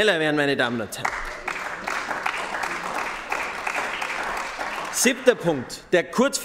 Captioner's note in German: Beifall bei den GRÜNEN